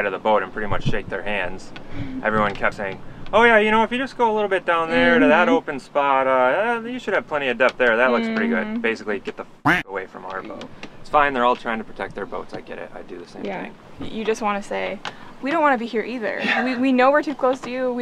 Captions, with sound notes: of the boat and pretty much shake their hands. Everyone kept saying, oh yeah, you know, if you just go a little bit down there to that open spot, ah, you should have plenty of depth there. That looks pretty good. Basically get the (quacking) away from our boat. It's fine, they're all trying to protect their boats. I get it, I'd do the same thing. - You just want to say, we don't wanna be here either. We know we're too close to you.